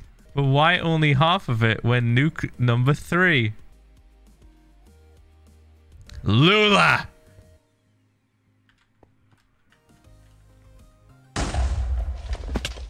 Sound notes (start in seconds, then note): 3.8 stunned silence; 11.3 creeper explodes